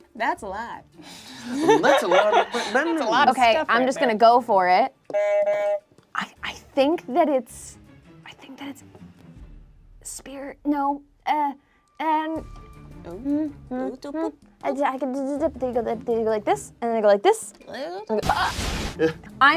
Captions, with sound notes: - That's a lot. - That's a lot of bending- - That's a lot of stuff right there. - Okay, I'm just gonna go for it. (buzzer honks) I think that it's... I think that it's spirit. No, eh, and. (humming) They go like this, and then I go like this, and go.